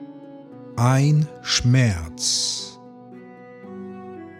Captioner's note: german